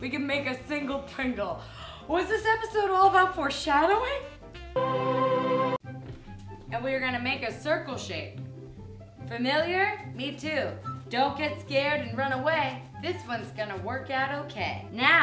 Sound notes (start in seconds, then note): 4.8 dramatic sound effect